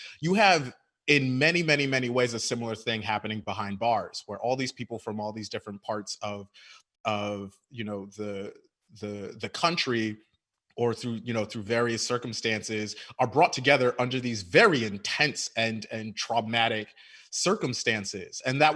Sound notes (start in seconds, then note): none